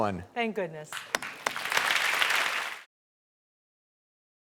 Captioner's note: audience applaud